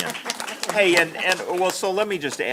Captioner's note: applause